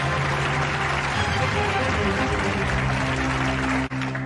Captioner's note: applause